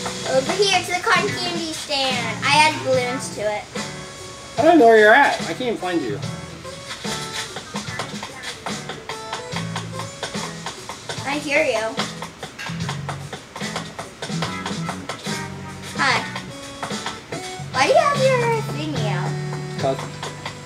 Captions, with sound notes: over here to the cotton candy stand! I added balloons to it. - I don't know where you're at. I can't find you. (footsteps) - I hear you. Hi. Why do you have your thingy out? - 'Cause.